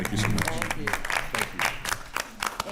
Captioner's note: attendees applauding